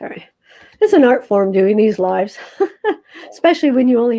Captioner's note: laughs